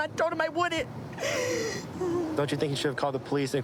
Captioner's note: sobbing